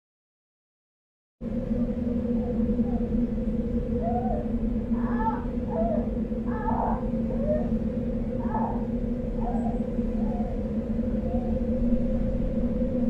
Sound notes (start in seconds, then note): 1.4 tense music; 4.0 groans loudly